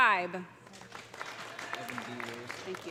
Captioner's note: audience applauding; audience cheering